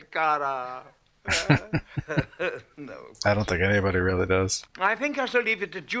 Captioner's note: chuckling